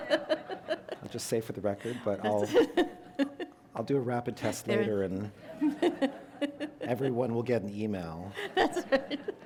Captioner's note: laughter; laughter